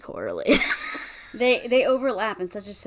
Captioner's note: wheeze laughs